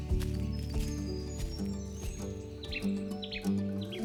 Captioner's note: birds chirping; footsteps; acoustic music plays